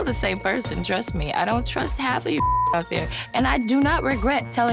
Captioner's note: beep